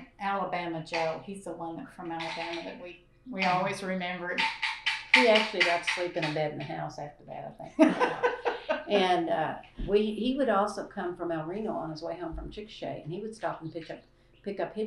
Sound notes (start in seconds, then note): 7.7 laughter